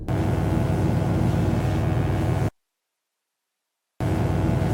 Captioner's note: electric buzzing